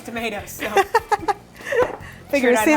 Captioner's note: laughing